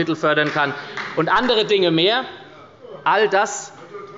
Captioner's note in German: Beifall bei der SPD